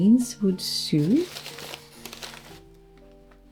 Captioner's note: rustle